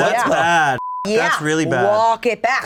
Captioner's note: beep